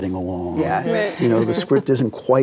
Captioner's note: group laughs